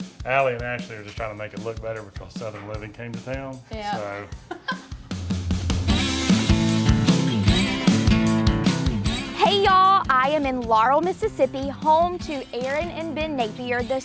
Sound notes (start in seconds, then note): 4.2 laughs; 6.2 country music